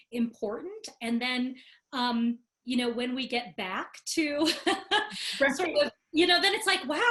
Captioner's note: laughing